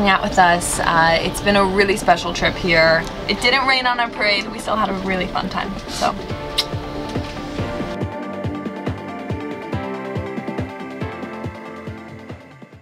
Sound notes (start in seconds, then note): 6.4 kiss